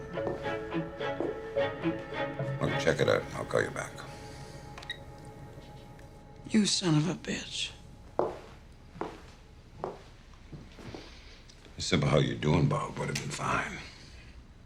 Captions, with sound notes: (intense music) Well, check it out and I'll call you back. (phone beeps) - You son of a bitch. - A simple "How're you doing, Bob?" would've been fine.